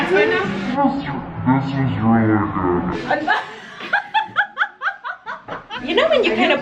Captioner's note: slow motion talking; laughs